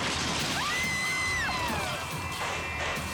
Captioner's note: bike crashing; onlookers screaming; dramatic music continues